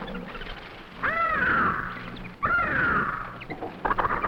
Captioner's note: birds cawing